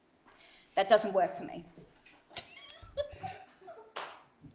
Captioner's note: all laugh